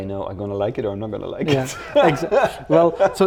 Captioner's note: laughs